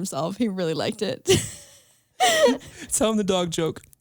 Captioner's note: laughs